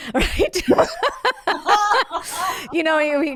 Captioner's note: both laughing